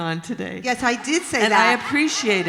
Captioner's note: laughter